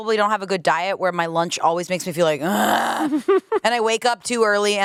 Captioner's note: groans